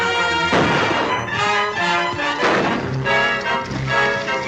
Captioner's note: gunshots - tense music